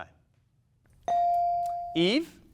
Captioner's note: buzzer dinging